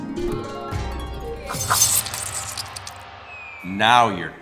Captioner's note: sword squelches